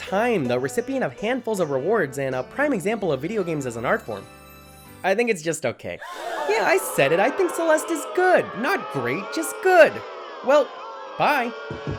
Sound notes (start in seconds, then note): 6.0 crowd boos; 6.0 crowd gasps